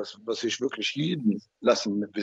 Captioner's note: mumbling in Arabic